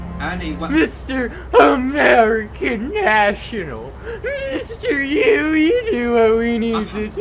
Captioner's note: laughs